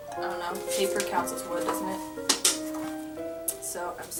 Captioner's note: knocks twice on pages